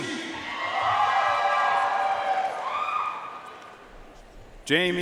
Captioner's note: audience cheering and applauding